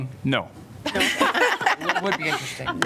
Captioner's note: laughter